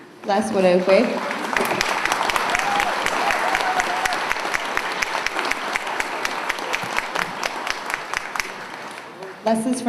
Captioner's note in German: Beifall